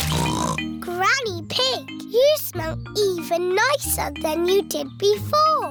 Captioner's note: snorts